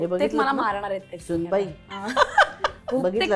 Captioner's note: chuckles